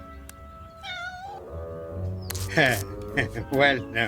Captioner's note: cat meows